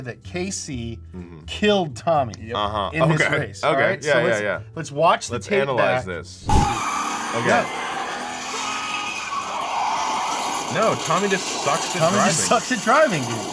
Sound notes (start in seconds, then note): 6.5 tires squealing; 7.6 roaring car engine